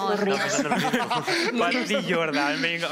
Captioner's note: laughter